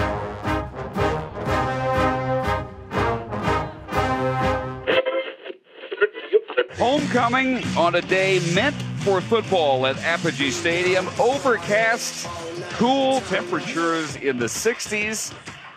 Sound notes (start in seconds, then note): 4.9 radio station tuning